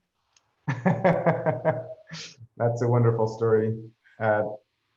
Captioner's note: laughs